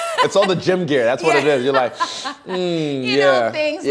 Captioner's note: inhaling